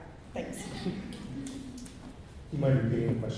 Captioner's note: laughter